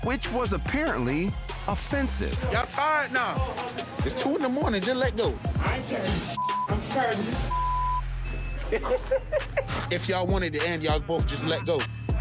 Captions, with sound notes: >>which was apparently offensive. >>Y'all tired now. (people fighting) It's 2:00 in the morning, just let go. (Camera Person 2 laughing) >>If y'all want it to end, y'all both just let go.